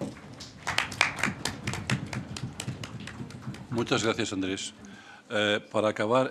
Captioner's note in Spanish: Aplausos